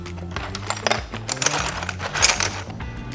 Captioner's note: tiles clanking